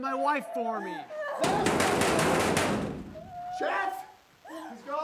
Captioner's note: door banging